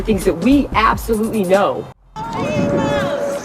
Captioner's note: indistintive screams